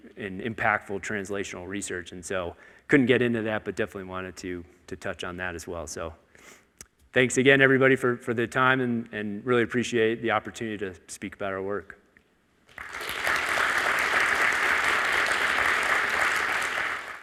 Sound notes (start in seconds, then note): 12.7 audience applauding